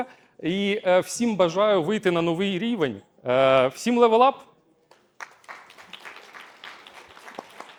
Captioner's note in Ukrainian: оплески